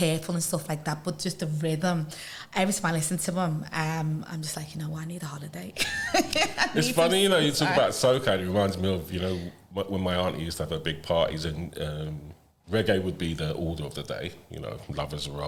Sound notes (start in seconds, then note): 5.8 laughter